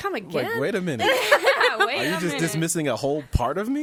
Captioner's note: laughing